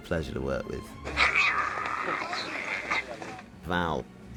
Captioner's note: growling